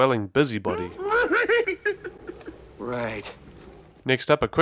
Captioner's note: Yoda laughs